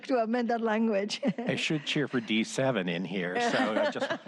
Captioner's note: laughter